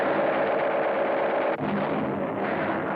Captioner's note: explosion